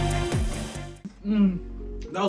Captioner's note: spice groan